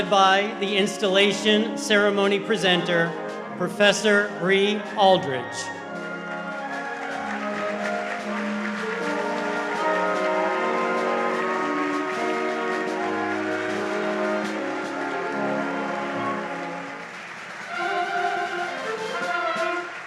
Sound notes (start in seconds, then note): 6.6 audience applauds; 9.5 bright marching band music